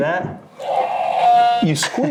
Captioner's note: dinosaur roars